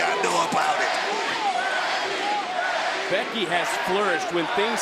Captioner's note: crowd chanting